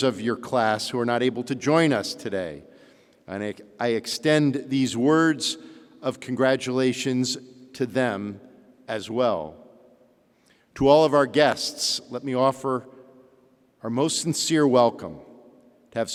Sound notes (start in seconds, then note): none